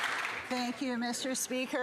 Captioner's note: some Applause